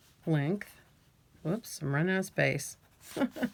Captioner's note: laughs